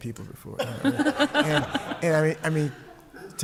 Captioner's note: laughter